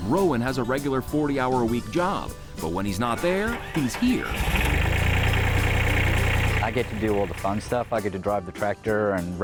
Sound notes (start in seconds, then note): 3.4 tractor engine roaring